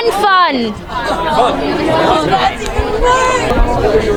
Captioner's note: people chattering